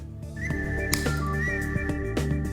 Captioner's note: upbeat electronic music; screw snaps